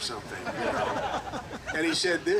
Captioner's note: group laughing